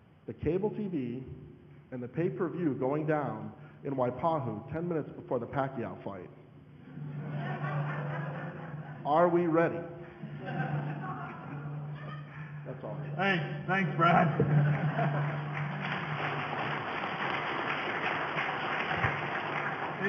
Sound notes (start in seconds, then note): 6.9 audience laughing; 13.9 audience laughing and applause